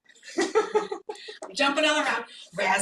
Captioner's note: laughs